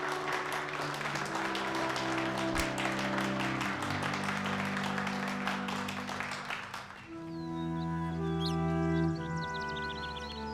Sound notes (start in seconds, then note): 6.9 birds chirping